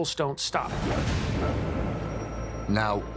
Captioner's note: bubbles popping